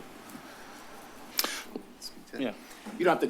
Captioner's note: clicks tongue